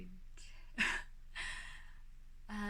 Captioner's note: laughs